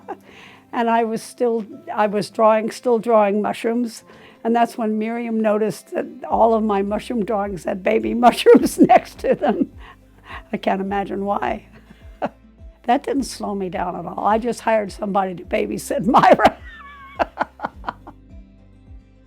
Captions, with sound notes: And I was still drawing mushrooms. And that's when Miriam noticed that all of my mushroom drawings had baby mushrooms next to them. I can't imagine why. That didn't slow me down at all. I just hired somebody to babysit Myra. (laughing)